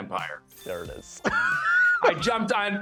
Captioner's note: laughs